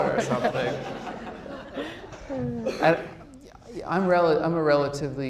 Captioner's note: audience laughs